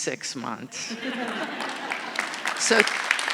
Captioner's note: audience laughing; audience applauding